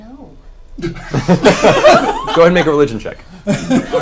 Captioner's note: all laugh